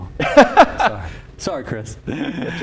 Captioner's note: laughter